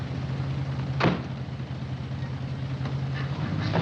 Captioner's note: car door closes